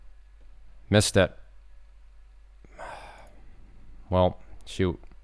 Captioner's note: exhales